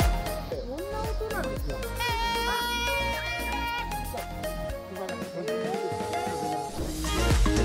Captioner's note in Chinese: 熊笛的聲音